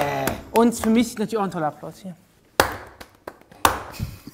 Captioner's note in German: Schwaches Klatschen